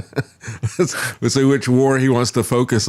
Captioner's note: laughs